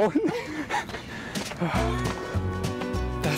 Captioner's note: laughing; relieved sigh